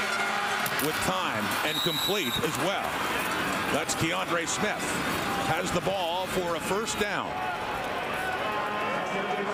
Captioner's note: crowd Noise